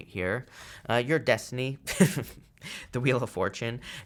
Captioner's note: chuckles